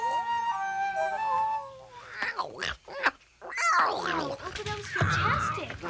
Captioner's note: sings; Tasha babbles